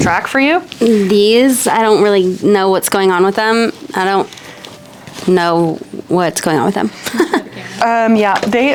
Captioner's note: laughs